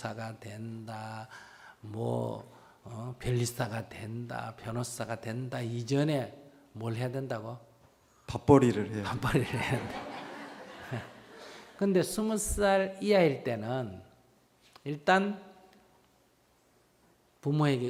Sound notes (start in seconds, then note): 9.4 audience Laughter